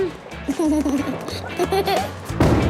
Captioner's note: giggles